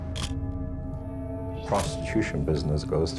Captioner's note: shutter click